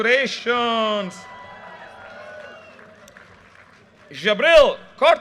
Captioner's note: audience cheers and applause